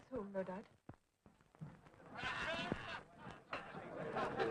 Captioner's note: raucous laughter